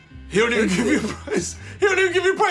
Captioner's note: laughs